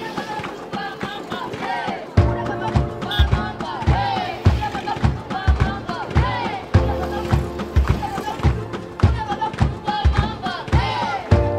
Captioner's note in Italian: Applauso; Applauso